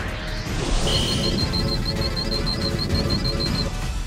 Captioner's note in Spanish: Pitidos